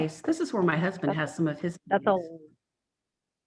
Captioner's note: murmurs